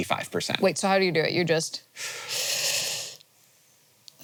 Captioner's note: breaths